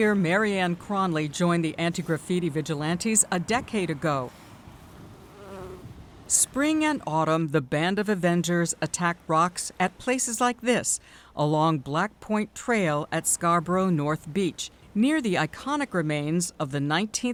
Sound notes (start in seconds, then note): 4.4 bee buzzing